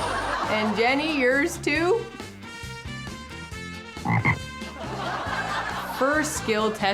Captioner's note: funny crowing sound and laughter; sound of frog croaking and laughter